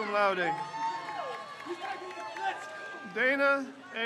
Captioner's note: crowd cheers